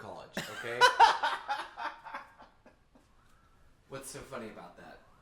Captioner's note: Anubis laughing